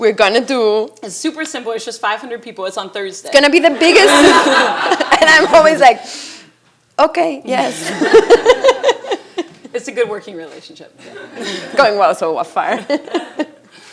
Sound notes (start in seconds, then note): 7.6 laughs